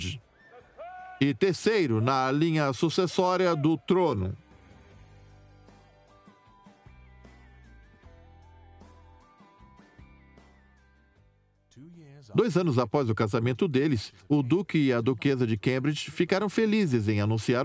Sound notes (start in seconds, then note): 4.9 upbeat music; 11.4 voiceover